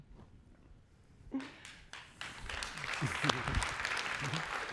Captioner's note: applause